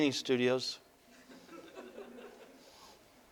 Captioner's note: audience: Laughter